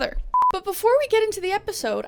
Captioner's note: beeping sound